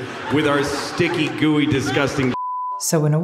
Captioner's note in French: bip